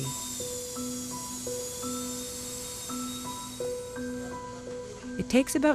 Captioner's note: drilling